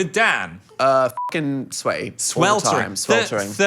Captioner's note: beep